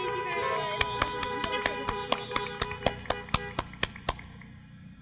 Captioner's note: applause